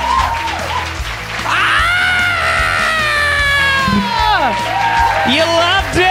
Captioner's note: screams